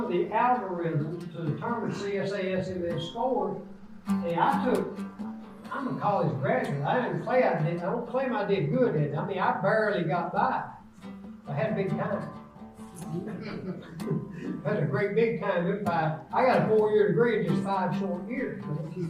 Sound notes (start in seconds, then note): 12.8 laughs; 13.0 audience laughs